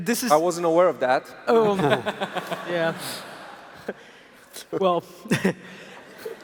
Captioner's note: laughs